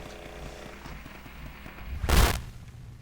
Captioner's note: static